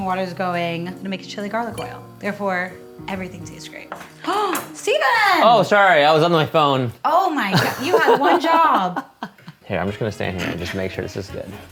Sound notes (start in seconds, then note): 4.1 gasps; 10.2 laughs